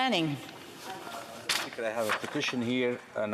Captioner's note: speaking French